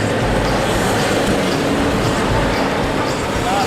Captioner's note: traffic noises